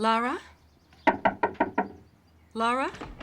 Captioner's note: knocking on door